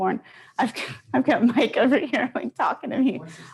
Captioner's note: laughs